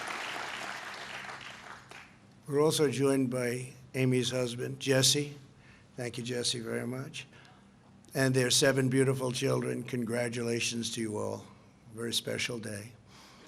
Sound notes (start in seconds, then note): 3.2 applause